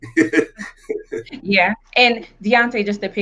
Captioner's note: laughs